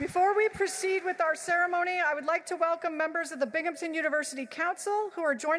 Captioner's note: applause